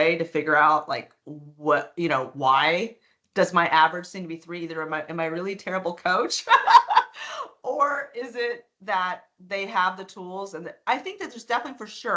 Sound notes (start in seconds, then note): 6.5 laughing